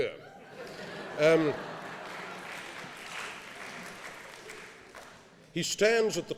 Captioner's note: applause